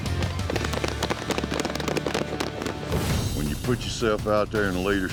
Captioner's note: all clapping